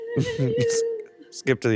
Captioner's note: chuckles